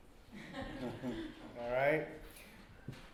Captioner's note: audience laughs